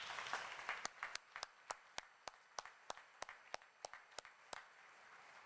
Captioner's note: applause